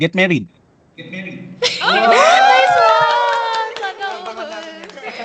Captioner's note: applause